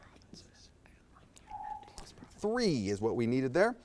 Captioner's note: times beeps